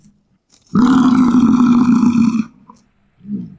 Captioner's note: bison roar